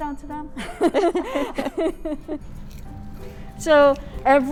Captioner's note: all laughing